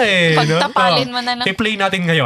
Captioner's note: laughing